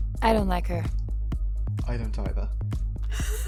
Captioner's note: chuckles